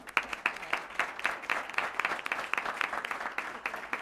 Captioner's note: applause